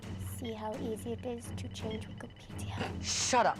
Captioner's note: snorts